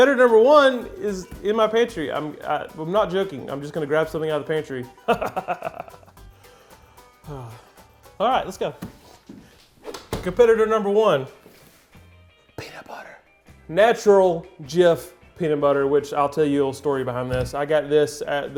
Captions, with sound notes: I'm not joking. I'm just gonna grab something out of the pantry. (laughing) (sighing) All right, let's go. Competitor number one. Peanut butter. Natural Jif peanut butter, which I'll tell you a little story behind this. I got this at the grocery store two weeks ago.